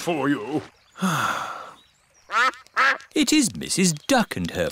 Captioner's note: sighs; quacking